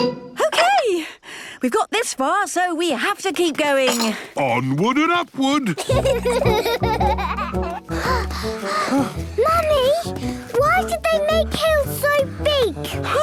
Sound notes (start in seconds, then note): 5.7 children giggling; 7.6 panting